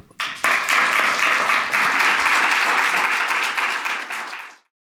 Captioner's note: audience clapping